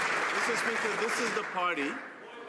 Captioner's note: some Applause